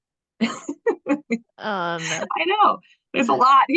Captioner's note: chuckles